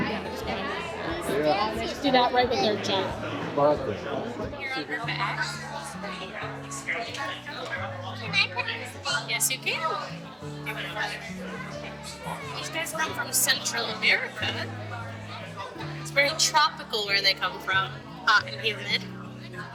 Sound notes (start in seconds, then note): 8.4 indistinct chatter